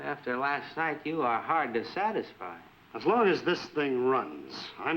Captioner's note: none